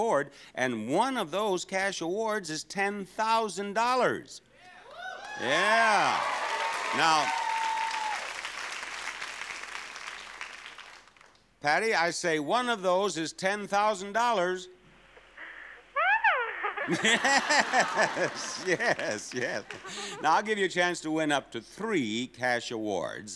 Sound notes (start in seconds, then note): 5.0 audience applauding; 16.0 audience laughing; 16.3 Bob laughing